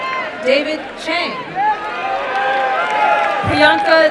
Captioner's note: applause and cheering